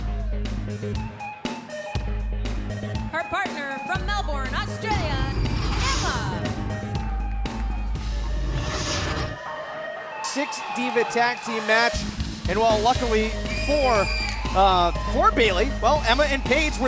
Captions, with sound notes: Her partner, from Melbourne, Australia, Emma! (upbeat pop music continues) (crowd cheering) Six-diva tag team match, and while luckily for Baley, well, Emma and Paige